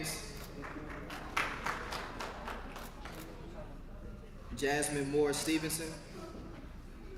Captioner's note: applause